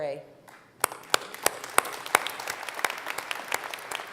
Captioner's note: applause